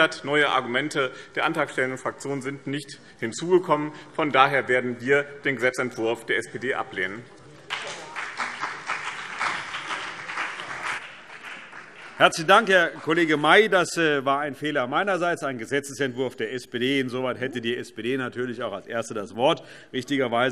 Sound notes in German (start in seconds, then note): 7.6 Beifall BÜNDNIS 90/DIE GRÜNEN und CDU